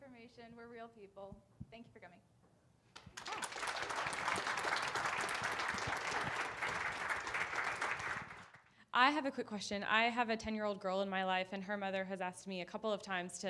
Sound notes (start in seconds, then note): 3.0 audience applauding